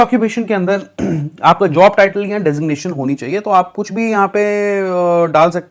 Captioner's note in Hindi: गला साफ़ करने की आवाज़